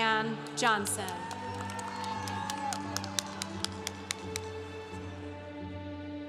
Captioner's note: congregation cheering